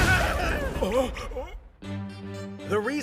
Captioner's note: gasp